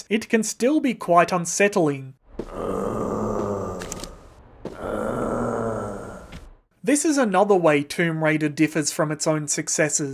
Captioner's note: mummy moaning